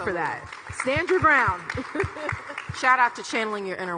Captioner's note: audience clapping